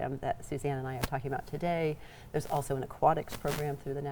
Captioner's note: none